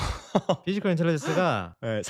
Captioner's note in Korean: 웃음